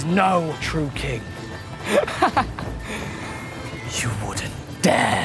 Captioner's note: chuckles